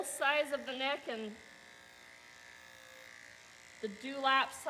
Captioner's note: clippers buzzing